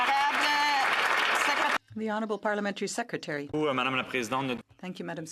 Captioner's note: some Applause